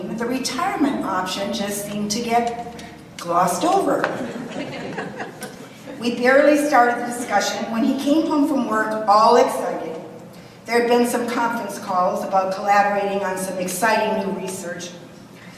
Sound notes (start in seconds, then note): 4.1 audience chuckles